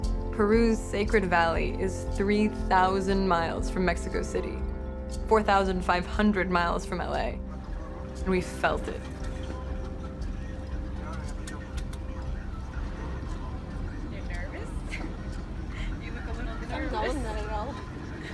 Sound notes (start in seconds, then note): 14.8 laughter